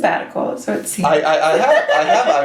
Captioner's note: laughs